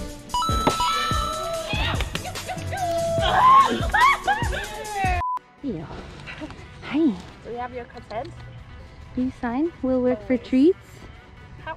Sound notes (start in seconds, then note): 2.7 howling